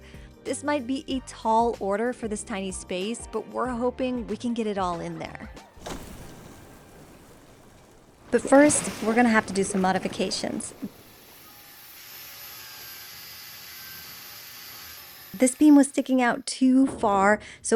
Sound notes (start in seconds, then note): 11.2 cutting metal